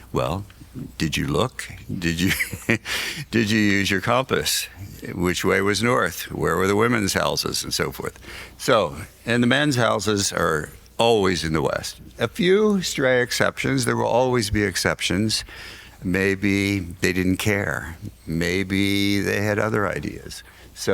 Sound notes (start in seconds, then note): 2.0 laughs